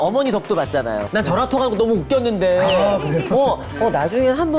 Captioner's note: laughing already